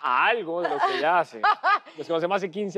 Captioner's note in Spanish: Ríe